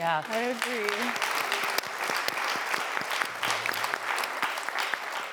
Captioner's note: audience applauding